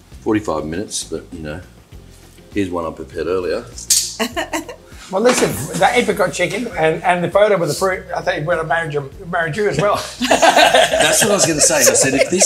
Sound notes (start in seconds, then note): 4.2 laughs; 9.8 group laughs